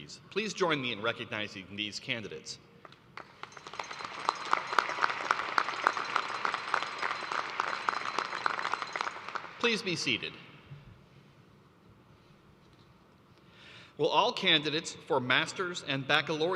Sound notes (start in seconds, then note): 8.9 applause